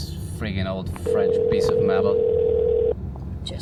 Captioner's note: phone starts ringing on the other end